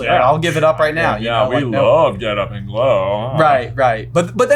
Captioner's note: sar-chasm voice